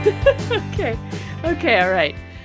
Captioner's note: laughing